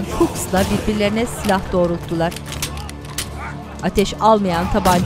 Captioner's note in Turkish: Boş altıpatlar mekanizma sesleri